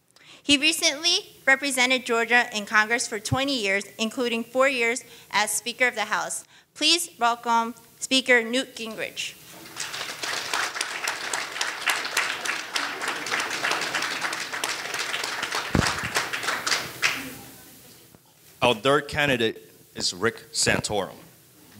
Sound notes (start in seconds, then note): 9.5 audience applauding